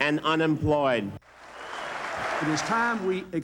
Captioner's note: applause